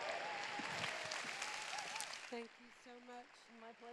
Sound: cheers

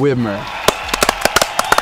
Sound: enthusiastic cheering; clapping

